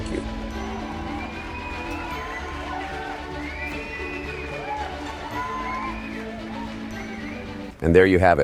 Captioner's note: audience cheers and applauds as patriotic music plays